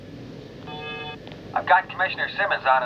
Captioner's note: interfone emite um sinal sonoro